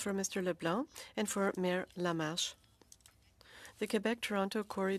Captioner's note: speaking French